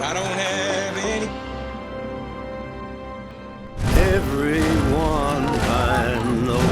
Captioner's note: applause